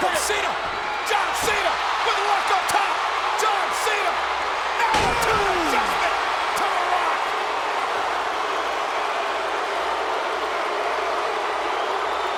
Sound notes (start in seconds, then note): 6.9 crowd cheering